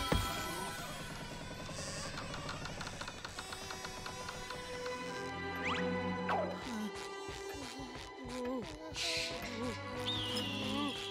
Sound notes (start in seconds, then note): 1.5 door creaking; 6.4 whimpering; 9.6 eagle screech